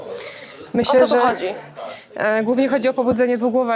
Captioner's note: snorts